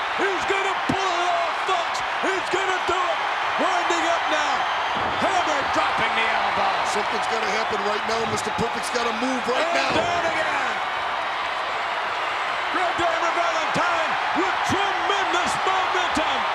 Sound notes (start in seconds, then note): 10.7 crowd shout